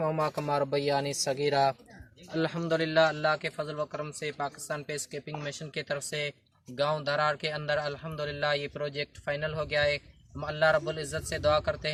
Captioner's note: muslims Praying